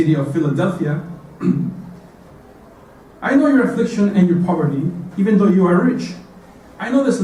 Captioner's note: cough